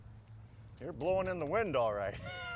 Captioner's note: laughs